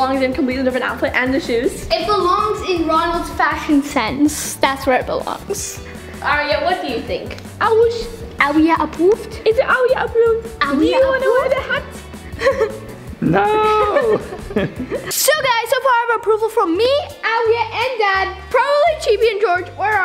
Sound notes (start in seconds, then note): 12.2 laughs